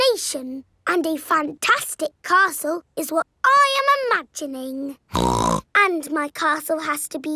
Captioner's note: snorts